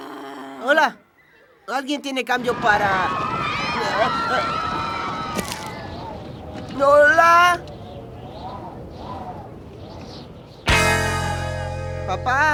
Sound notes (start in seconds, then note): 4.0 kids yelling; 8.4 echoing